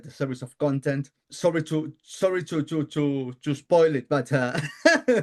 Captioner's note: laughs